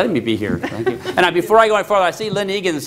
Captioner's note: laughter